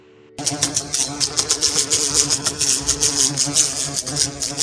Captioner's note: flies buzzing